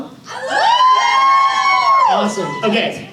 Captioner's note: audience cheers